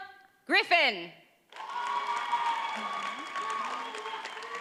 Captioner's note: audience cheers and applauds